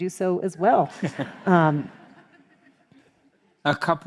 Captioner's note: crowd laughs